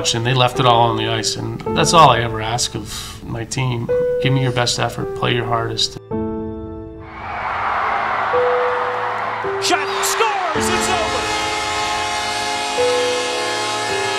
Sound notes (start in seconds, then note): 7.0 crowd cheering; 11.2 horns blaring